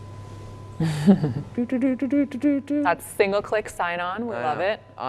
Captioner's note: laughs